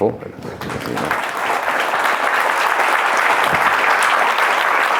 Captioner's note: audience applauding